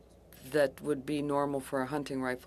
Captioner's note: speaking French